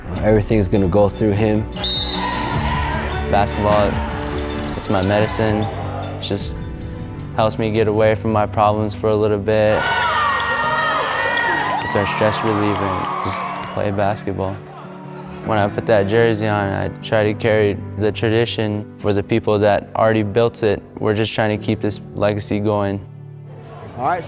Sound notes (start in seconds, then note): 9.7 crowd cheering